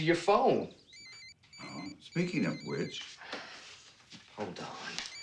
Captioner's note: phone ringing